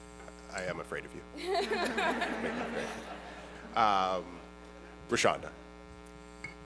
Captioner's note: laughter